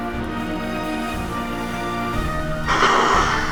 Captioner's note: snake hissing; dramatic music